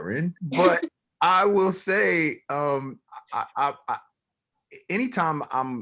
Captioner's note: laughs